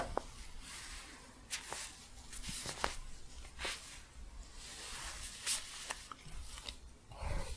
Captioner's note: staticky shuffling